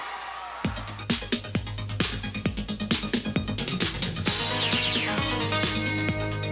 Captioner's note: upbeat music; graphics blipping